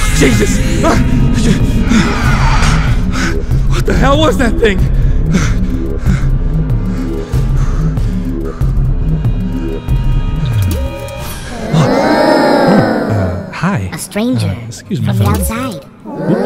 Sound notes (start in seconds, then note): 2.8 panicked breathing